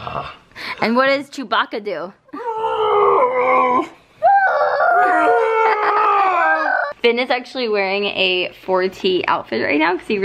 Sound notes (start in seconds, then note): 2.5 making sound effects